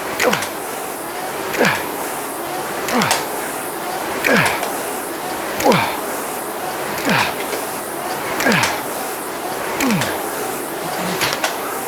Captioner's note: grunting